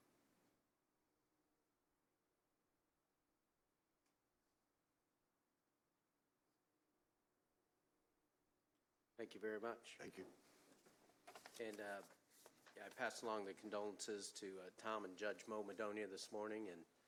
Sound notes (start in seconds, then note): 2.0 moment of silence